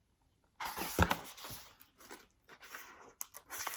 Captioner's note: turns page